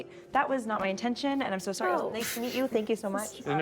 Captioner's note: scoffs